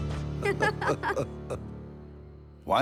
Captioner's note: babar and badou laugh